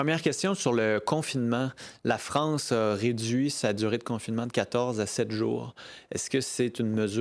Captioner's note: speaking French